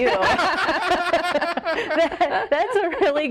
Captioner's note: everyone laughs